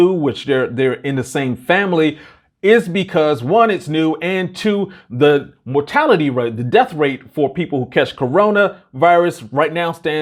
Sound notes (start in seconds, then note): none